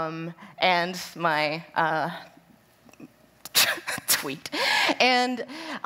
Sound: laughs

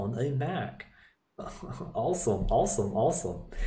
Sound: laughing

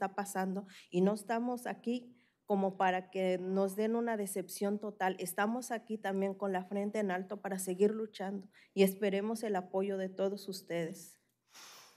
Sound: speaking spanish

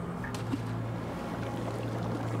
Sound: splash

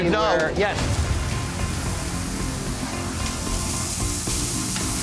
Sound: food sizzling

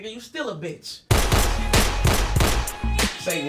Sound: gunshots

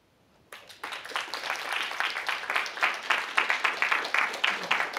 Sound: applause

